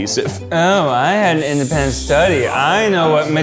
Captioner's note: mimics